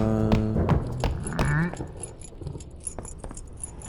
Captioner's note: keys jingling